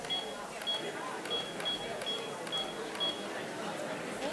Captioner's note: timer beeping